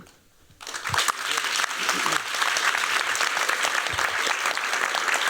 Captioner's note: applause